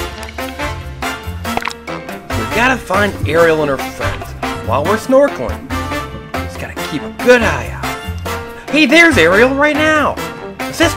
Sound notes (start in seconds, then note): 0.2 tropical music; 2.6 voiceover